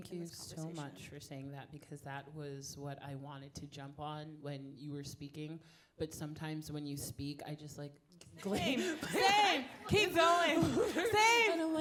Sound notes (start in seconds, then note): 8.4 panelists laughing